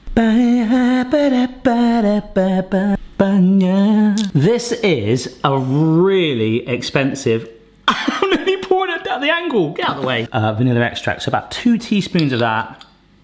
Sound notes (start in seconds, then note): 7.9 laughs